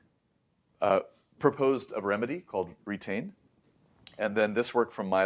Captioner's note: lips smack